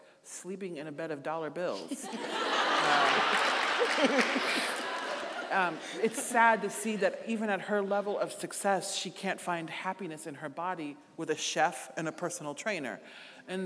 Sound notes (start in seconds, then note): 1.8 audience laughing; 2.4 audience applauding; 4.7 laughing